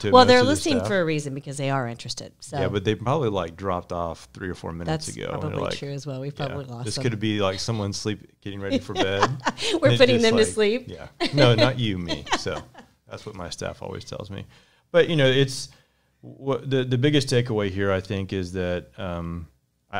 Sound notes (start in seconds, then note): 8.6 chuckles